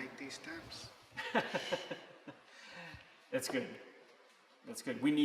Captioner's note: laughs